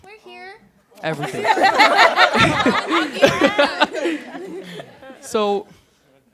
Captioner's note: laughter